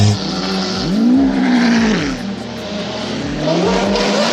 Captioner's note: engine roaring